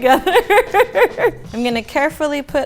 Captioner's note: laughing